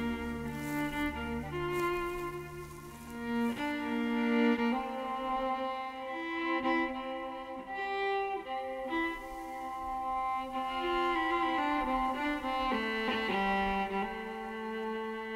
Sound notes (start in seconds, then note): 0.0 footsteps rustling